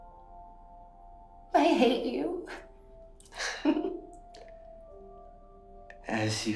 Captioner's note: chuckles